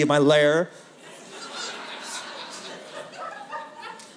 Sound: laughter

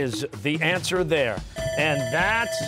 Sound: bell ringing

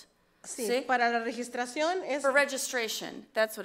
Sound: speaks foreign language

